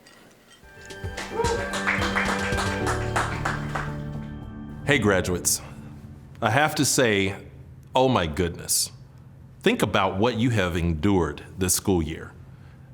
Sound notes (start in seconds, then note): 0.8 crowd applauding